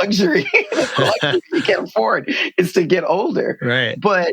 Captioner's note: laughter